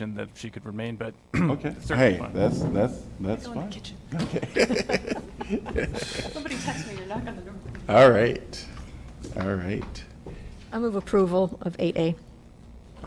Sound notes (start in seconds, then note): 4.2 laughter